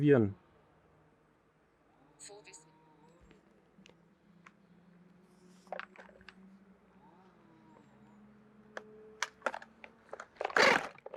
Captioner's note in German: Motorsägengeräusch